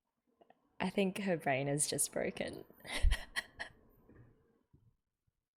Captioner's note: laughs